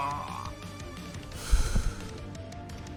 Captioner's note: deep breath